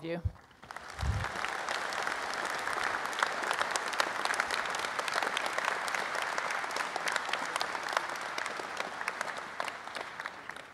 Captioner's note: applause